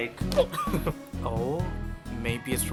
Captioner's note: giggling